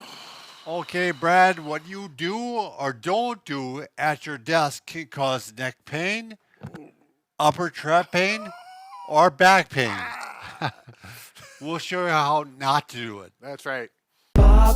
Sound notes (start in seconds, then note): 9.8 groans in agony; 14.4 intro music